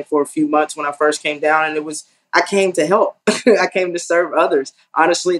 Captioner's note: laugh